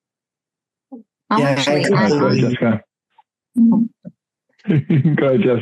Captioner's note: panelists chattering